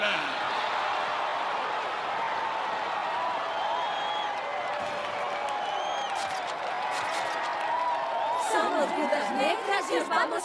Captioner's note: crowd cheering; chanting